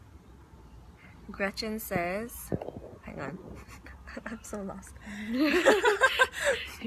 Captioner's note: laughs